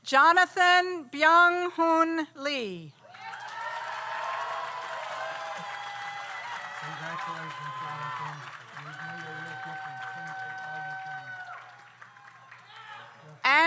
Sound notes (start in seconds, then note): 3.5 audience applauds; 3.5 audience cheers